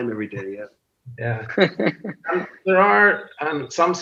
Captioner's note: laughs